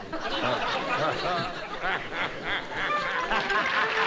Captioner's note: laughter